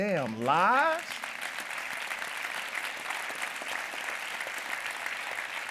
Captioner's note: audience applauding